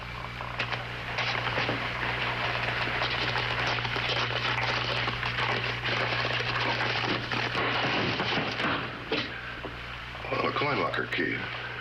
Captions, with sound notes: (CLANGING) Oh, a coin locker key.